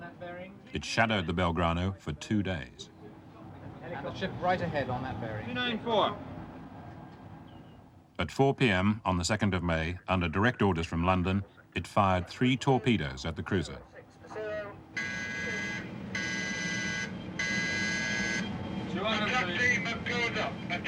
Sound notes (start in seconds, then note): 14.9 siren blaring